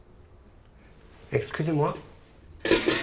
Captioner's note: speaking French; metal clattering